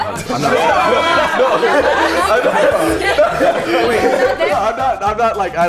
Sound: group laughs

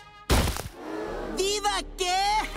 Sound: spanish; laughing

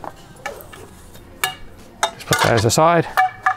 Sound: poles clanging

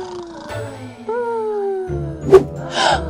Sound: snoring

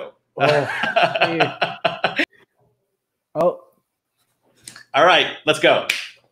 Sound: laughing

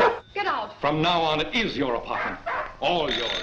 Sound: dog barks; phone rings

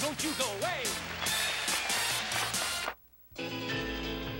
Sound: applause

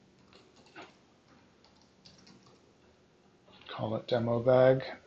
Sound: keyboard clicking

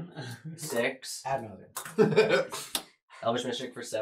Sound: laughs

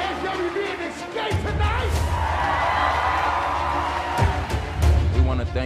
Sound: cheering

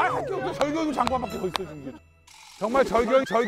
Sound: laughing

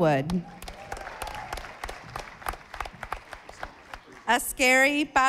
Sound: audience applauding

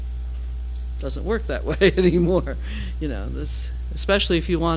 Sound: laugh

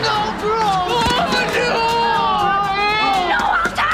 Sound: groaning

